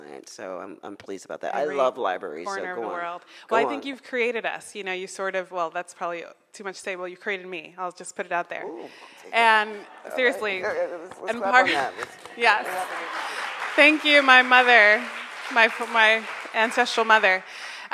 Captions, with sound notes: and so I'm pleased about that. - Every corner of the world. - I love libraries, so go on. - Well I think you've created us, you sort of, well that's probably too much to say, well you created me, I'll just put it out there. - Ou, I'll take it, okay. - Seriously. - Let's clap on that. (crowd applauds) - Thank you my mother, my ancestral mother.